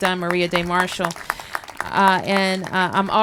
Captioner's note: applause